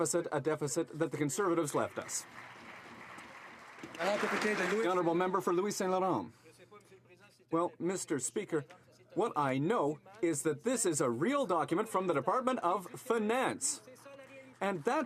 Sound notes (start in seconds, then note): 5.5 some Applause